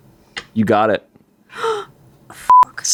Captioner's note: gasps; beep